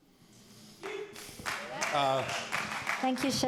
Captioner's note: cheer